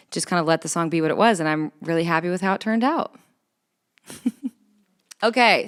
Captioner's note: chuckles